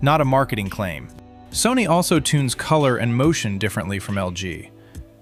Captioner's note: thoughtful